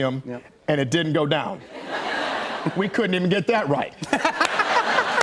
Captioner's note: laughter